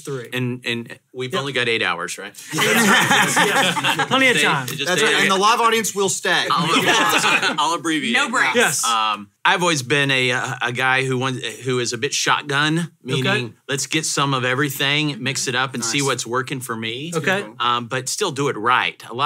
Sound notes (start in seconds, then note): 2.4 hosts laugh; 6.4 hosts laugh